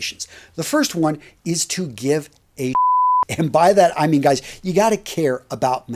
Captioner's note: beeping sound